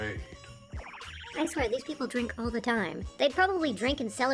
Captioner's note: teleportation sounds